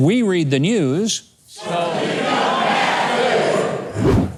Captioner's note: crowd